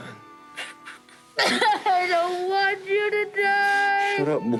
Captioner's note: sobs